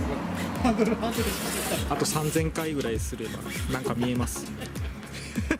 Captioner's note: laughs